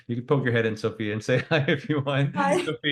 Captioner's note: laughs